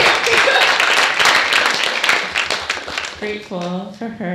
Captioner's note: applauding